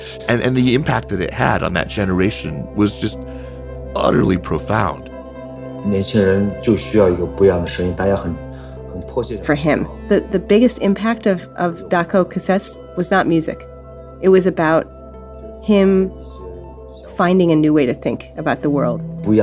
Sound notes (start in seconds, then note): 6.1 speaking Mandarin Chinese